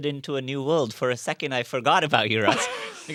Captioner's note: laugh